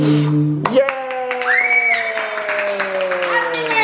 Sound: cheering

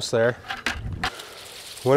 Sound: bucket clunking

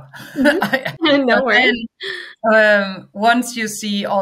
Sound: chuckles

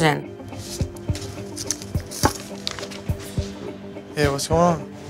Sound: tense music; rustling

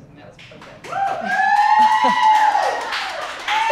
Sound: crew cheering; crew applause

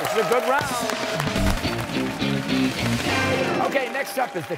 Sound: cheers and applause

